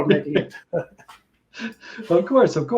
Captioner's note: laughs